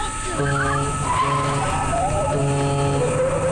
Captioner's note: horn blasting; tires screeching; soft intense music